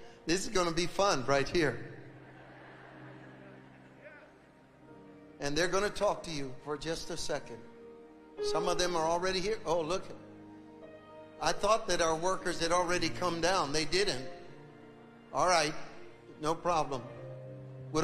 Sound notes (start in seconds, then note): 2.0 audience laughs